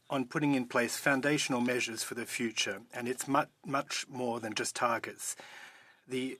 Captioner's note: speaking French